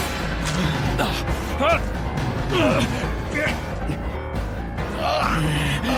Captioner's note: dramatic music; dragon shouts; man grunting